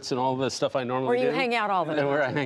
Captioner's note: laughter